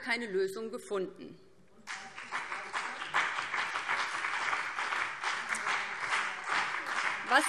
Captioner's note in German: Beifall BÜNDNIS 90/DIE GRÜNEN und CDU